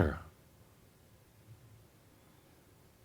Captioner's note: slight pause